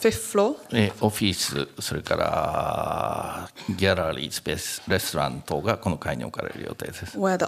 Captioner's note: speaking japanese